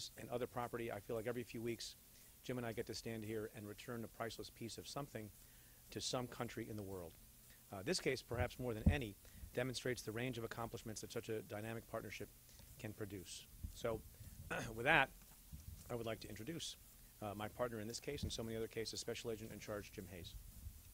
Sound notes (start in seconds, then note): 14.5 clears throat